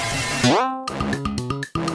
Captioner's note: boing; theme music